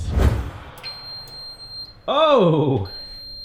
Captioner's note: timer beeps